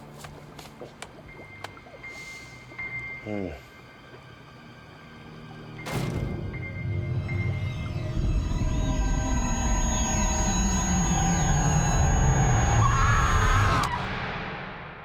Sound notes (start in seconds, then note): 5.1 bangs; 12.1 screams